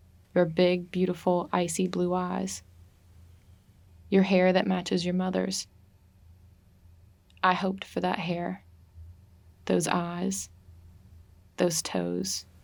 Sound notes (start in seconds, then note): none